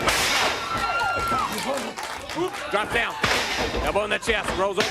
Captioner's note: crowd cheering